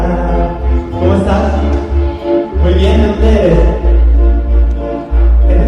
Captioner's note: speaking Spanish